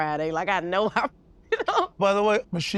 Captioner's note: laughs